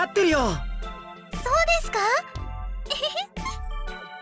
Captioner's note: chuckle